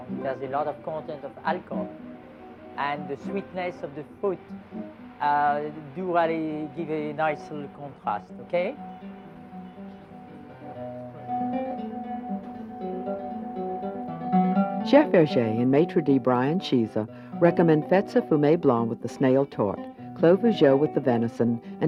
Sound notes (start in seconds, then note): 15.0 voiceover; 20.2 speaks foreign language